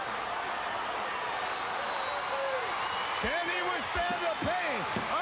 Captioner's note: crowd cheering